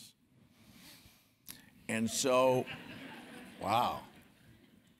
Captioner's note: laugh